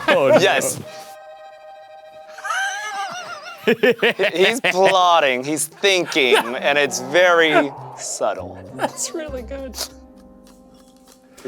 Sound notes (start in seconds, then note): 0.0 laughing; 0.0 menacing music; 2.4 laughing; 10.7 laughs